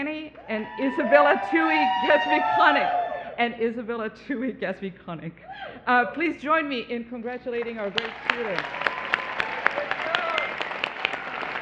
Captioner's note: cheering